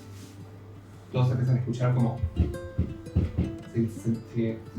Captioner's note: hooves approaching